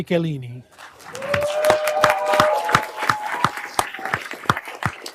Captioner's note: everyone applauding